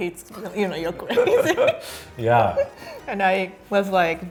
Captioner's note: laughing